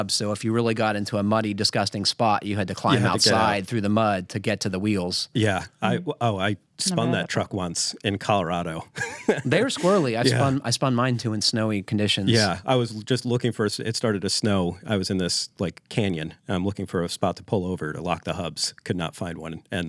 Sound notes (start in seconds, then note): 8.8 chuckles